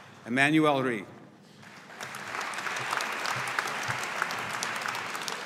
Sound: audience applauding

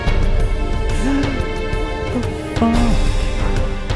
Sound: gasps

